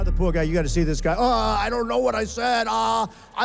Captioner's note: groans